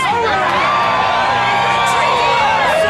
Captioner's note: crowd cheering